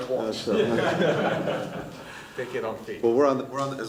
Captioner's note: laughter